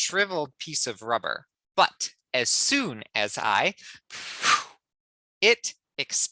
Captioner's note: blows air into imaginary balloon